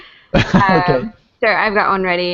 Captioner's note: laughing